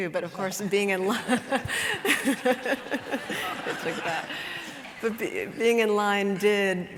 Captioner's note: laughter